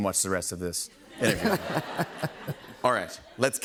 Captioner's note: laughter